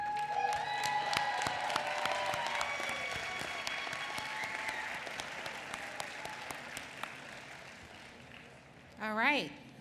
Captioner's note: applause